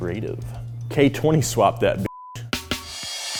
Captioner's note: beep; funky music